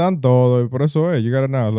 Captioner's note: speaking In Foreign Language